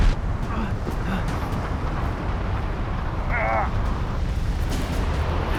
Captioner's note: grunts